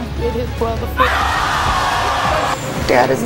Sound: audience screaming

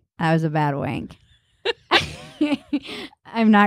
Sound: laughing

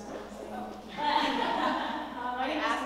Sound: laugh

